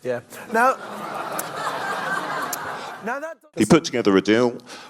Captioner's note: audience laughs